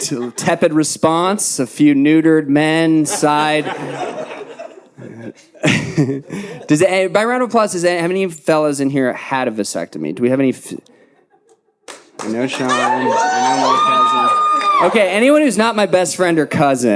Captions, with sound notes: Tepid response, a few neutered men, side. (audience laughing) By round of applause, how many of you fellas in here had a vasectomy? Do we have any? No, Sean. (audience cheering) Okay, anyone who's not my best friend or cousin.